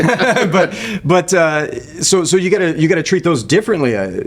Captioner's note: laughing